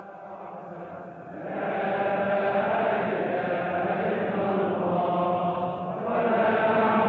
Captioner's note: crowd chanting in Arabic